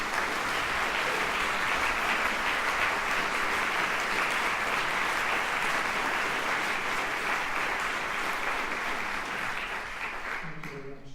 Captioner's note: applause